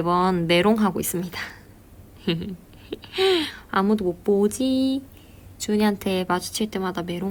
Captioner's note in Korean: 웃음